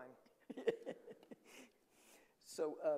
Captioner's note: chuckles